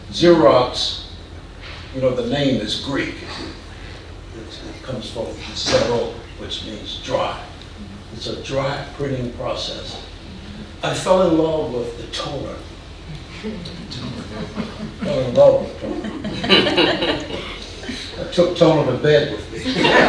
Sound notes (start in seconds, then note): 16.6 audience laughing